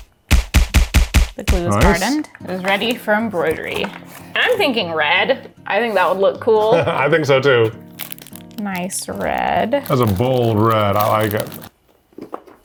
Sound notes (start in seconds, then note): 0.2 fist punching; 6.6 chuckles